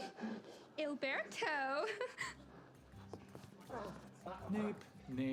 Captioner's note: chuckling